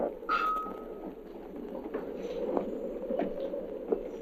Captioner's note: wind howling